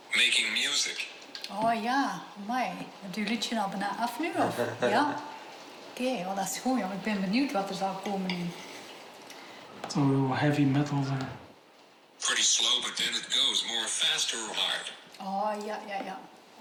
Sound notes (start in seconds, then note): 4.4 chuckles